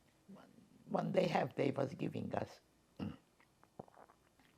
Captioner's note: clears throat